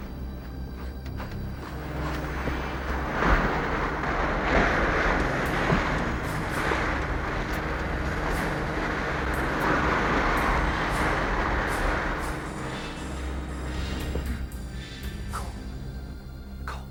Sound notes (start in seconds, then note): 2.2 motor buzzing